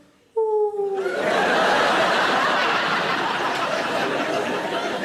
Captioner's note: audience laughing